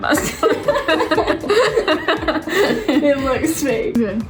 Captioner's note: laughing